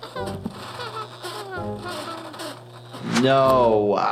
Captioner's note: flaky breathing